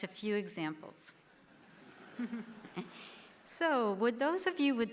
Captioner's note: laughter